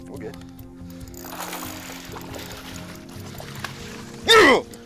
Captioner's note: water splashing